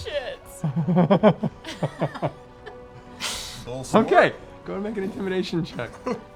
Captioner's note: laughs